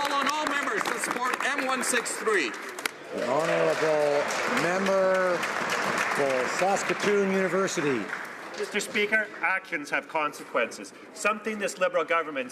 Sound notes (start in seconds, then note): 7.8 some Applause